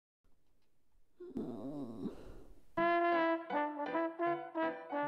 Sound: pained groan

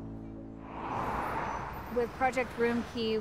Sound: cars passing

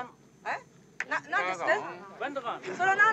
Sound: speaking Japanese

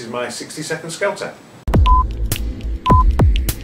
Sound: clock ticking

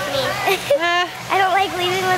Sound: laughing

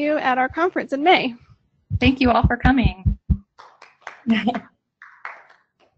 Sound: applause

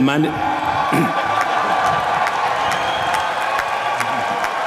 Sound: applause

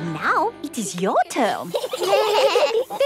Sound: children giggling

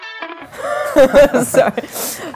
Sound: upbeat guitar solo music; laughter

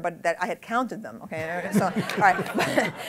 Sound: laughter

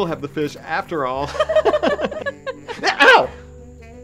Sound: both laughing

